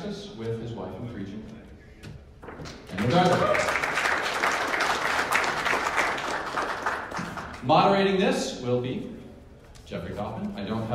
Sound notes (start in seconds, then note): 2.6 clapping